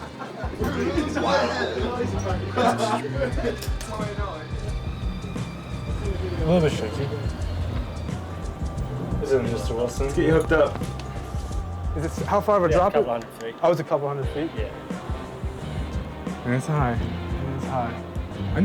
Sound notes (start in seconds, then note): 1.4 whispering